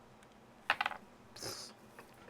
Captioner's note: blows raspberry